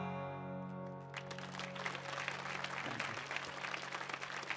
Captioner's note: audience applauds